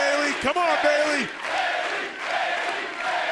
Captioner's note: fans chanting